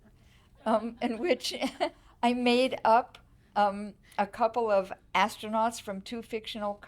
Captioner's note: audience laughing